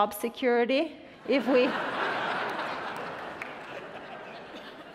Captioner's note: attendees laughing